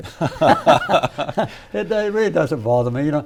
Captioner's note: both laugh